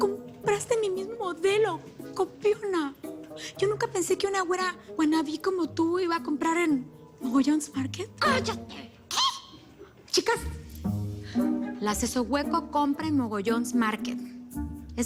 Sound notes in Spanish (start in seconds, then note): none